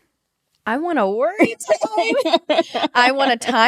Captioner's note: both laugh